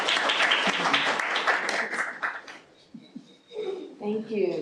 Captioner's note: applause